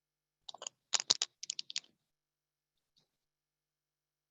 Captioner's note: rustling